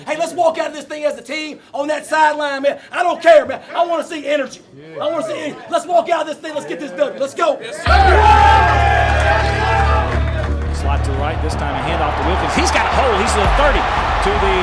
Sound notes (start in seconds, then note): 7.8 cheering